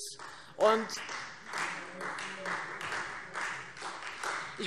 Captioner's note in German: Beifall Freie Demokraten